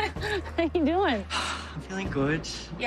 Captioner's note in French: sighs